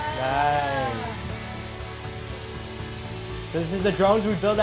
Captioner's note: bright music; drone whirs